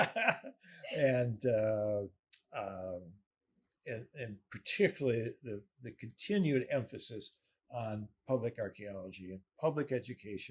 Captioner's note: laughing